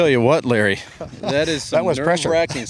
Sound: laughter

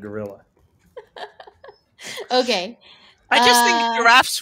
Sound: laughs

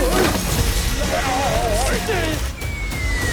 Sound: screaming

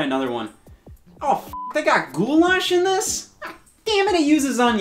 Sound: beep

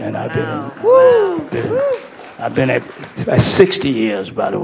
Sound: audience cheering

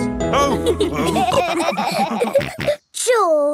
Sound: all laughing

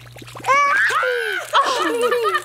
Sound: laughs; screams; laughs

